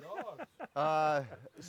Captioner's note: laughs